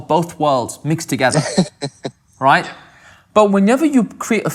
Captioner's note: laughter